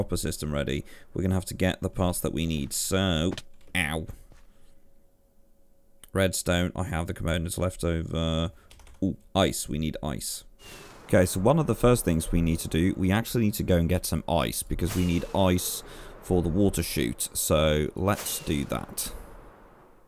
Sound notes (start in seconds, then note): 4.7 thud; 5.4 thinking out loud